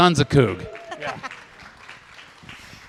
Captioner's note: applause